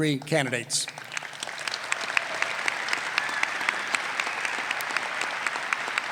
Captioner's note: applause